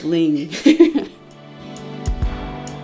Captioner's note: upbeat music; laughs